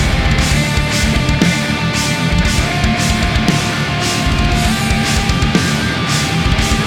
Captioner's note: crowd cheering